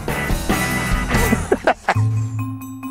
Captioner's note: laughing